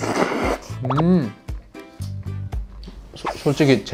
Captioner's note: nom nom slurp